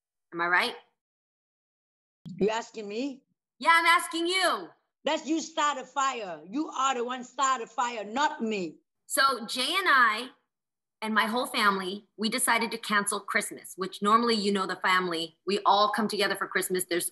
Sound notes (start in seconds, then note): none